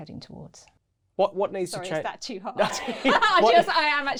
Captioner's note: laughs